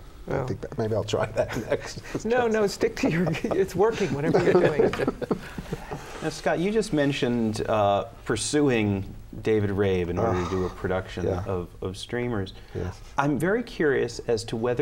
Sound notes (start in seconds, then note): 0.6 laughs; 5.8 laughter